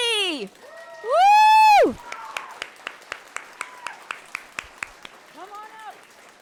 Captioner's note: audience clapping and cheering